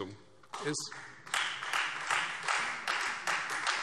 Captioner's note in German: Beifall Freie Demokraten